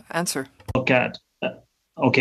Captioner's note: speaking in french